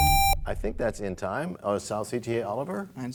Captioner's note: buzzer sounds, bell chimes